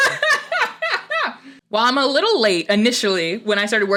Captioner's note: laughter